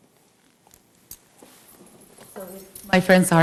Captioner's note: speaks faintly